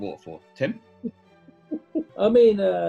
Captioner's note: giggling